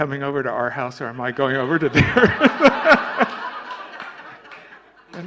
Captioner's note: laughter